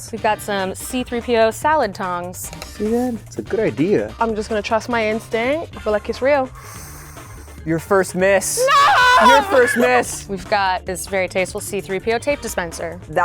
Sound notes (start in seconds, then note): 6.5 inhales